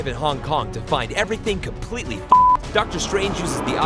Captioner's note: beep